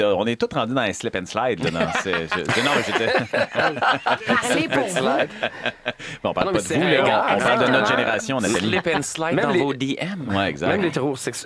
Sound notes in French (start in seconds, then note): 3.4 rires